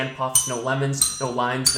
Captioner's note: bell dings